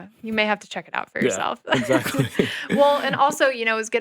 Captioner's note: chuckles